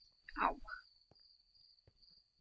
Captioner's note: none